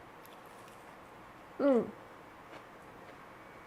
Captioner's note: bread crunching